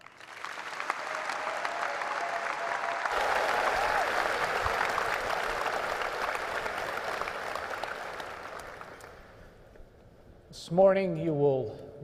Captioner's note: cheers and applause; applause